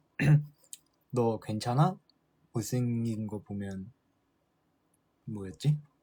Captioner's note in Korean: 목을 가다듬음